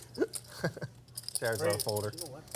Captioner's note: laughs